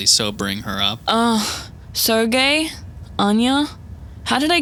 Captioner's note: groans